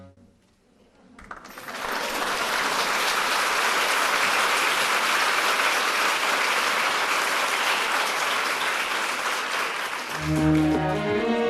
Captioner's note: applause